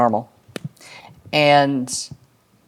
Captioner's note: knuckles crack